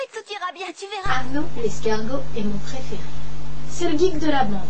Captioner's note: Arnaud in French dub